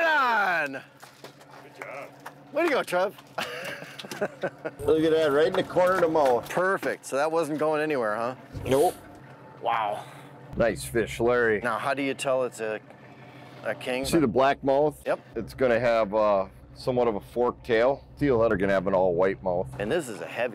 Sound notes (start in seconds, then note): 3.3 all laughing